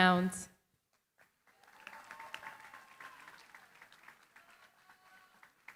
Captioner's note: applause